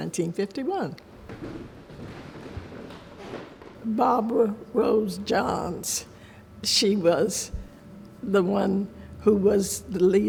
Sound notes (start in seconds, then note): 1.2 footsteps thud